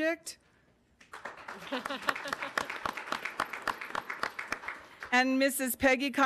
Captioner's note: audience applauding